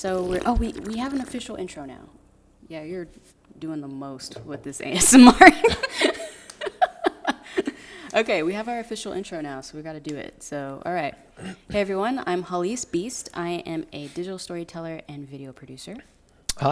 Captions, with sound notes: oh we have an official (slurping) intro now. Yeah, you're doing the most with this ASMR. (laughing) Okay, we have our official intro now, so we gotta do it, so all right. Hey everyone, I'm Hallease Beast, I am a digital story teller and video producer.